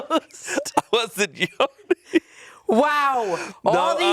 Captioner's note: chuckling